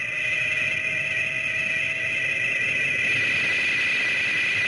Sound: Gammera whirring

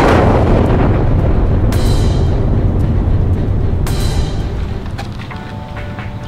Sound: explosion; birds chirping

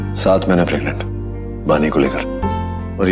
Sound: none

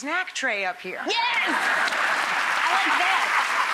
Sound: laughing and clapping

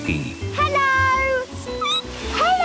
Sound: squeaking

